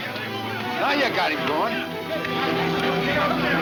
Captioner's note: men shouting